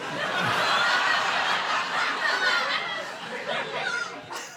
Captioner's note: audience laughing